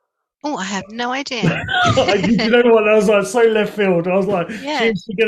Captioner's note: laughter